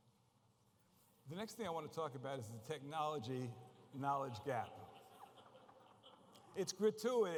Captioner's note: laughter